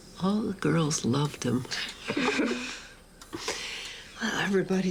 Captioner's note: giggles